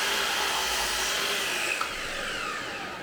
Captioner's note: saw whirs